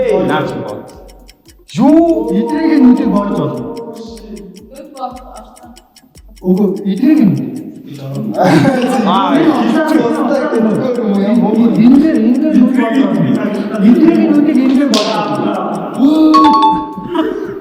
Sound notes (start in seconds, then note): 8.1 инээх